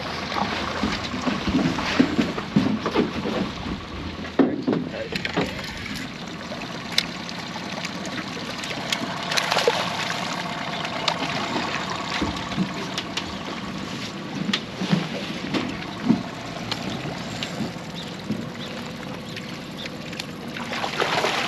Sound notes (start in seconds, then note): 6.6 clanking; 8.9 reel cranking; 10.5 fish splashing; 12.7 boat enging idling